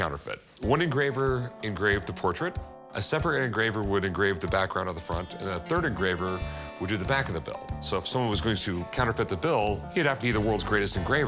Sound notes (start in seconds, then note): none